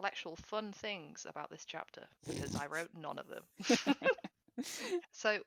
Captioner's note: laughs